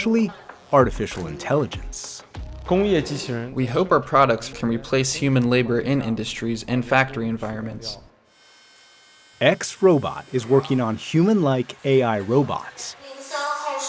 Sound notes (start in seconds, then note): 3.2 speaking foreign language; 8.7 robots whirring; 13.6 speaking foreign language